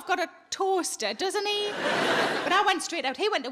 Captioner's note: audience laughing